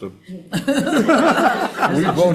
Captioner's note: members laugh